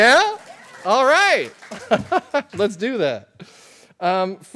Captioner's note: applause; laughter